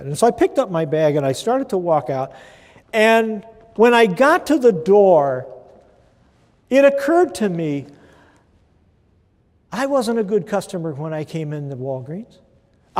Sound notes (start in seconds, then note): none